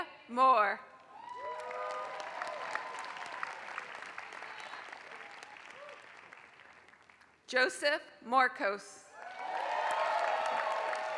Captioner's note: applause; applause